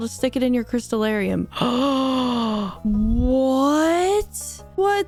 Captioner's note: gasp